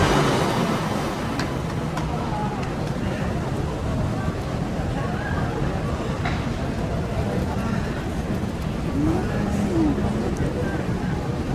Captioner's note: heavy breathing